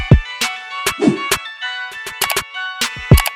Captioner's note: hip-hop music; whooshing; mouse clicking